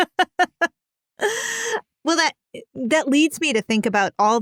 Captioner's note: laughing